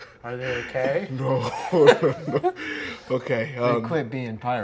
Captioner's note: laughing; chuckles